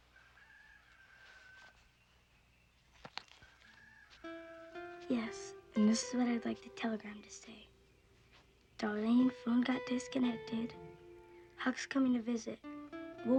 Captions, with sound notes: (rooster crowing) (gentle music) - Yes, this is what I'd like the telegram to say. Darlene, the phone got disconnected, Huck's coming to visit.